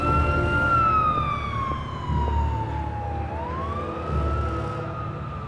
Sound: siren wails

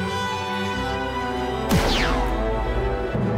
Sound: blaster graze; blaster fire; daughter laughing

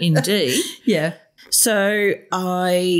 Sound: laughter

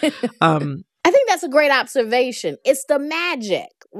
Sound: laughter

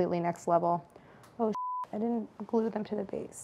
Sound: beep

